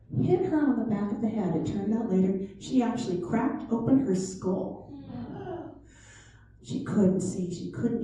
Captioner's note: ohhh